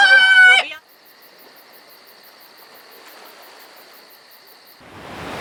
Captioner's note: crickets chirping; waves crashing